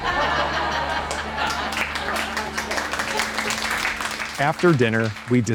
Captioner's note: laughter and applause